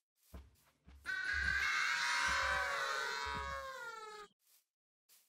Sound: cow calling for 911

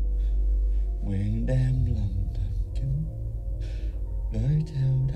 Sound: chanting in Vietnamese

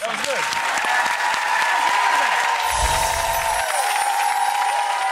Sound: audience applauding

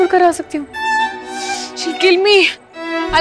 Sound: sighs

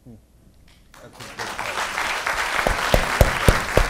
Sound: applause

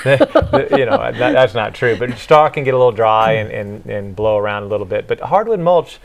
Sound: laughing

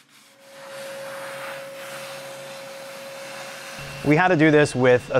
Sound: machine humming

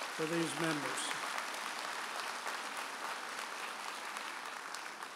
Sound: audience applauding

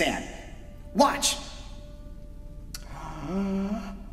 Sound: inhales

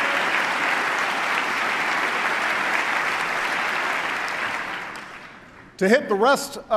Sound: applause

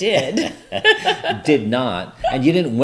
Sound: both laugh

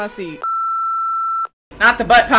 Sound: beep

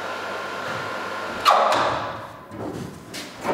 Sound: thud beeping

